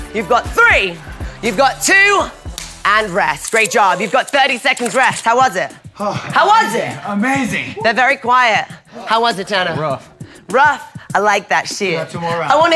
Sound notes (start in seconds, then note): 2.5 clapping; 6.0 sighs